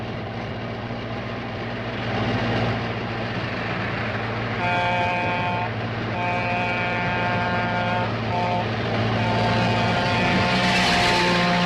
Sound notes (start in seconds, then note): 6.1 train whistle blowing